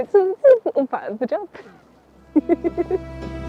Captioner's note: laughs